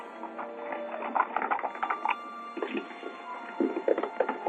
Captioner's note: horses galloping